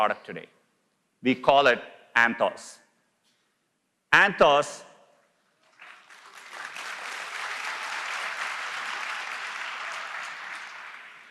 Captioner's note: applause